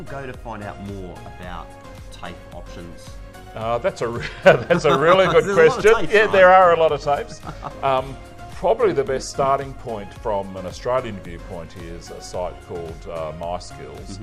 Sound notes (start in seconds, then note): 4.1 hearty laughs